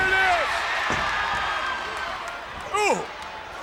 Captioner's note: audience cheers